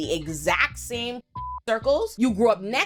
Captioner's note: beep